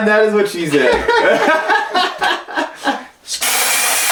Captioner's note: laughing; whirring